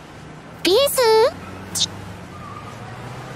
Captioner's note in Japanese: ちゅ